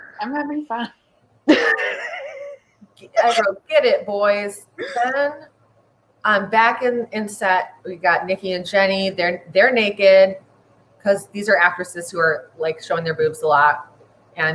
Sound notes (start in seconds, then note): 1.4 laughs